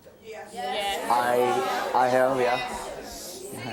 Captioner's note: audience shouting